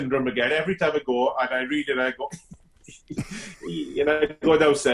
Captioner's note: laughs